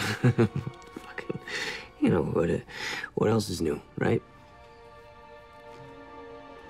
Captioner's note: chuckles